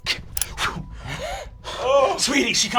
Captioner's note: blowing